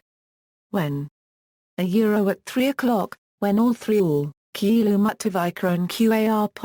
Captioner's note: speaks